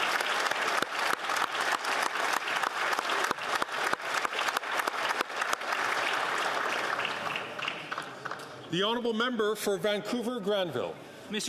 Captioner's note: some Applause